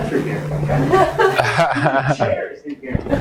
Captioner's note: audience laughs